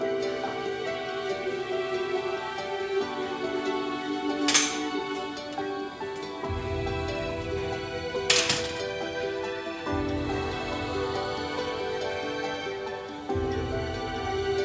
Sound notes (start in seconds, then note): 4.1 door opened; 8.3 door closed